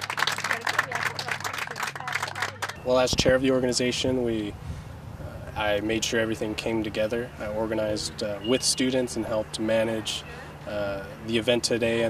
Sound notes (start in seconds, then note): 1.0 cheering